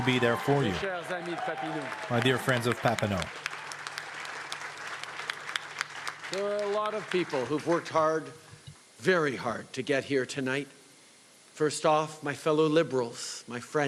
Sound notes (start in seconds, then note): 3.8 cheering and Applause